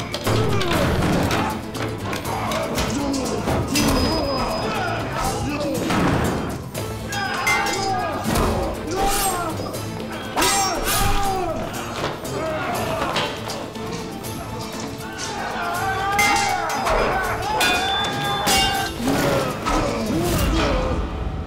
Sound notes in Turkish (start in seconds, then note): 0.2 Bağırma sesleri; 7.1 Kılıç sesleri; 15.9 Bağırma sesleri; 15.9 Kılıç sesleri